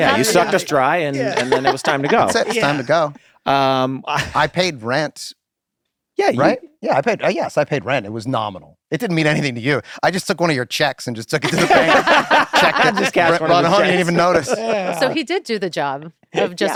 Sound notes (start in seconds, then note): 3.7 group laughing; 14.9 laughter